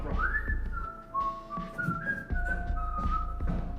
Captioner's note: man whistling